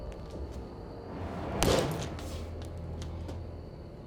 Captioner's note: smashes watch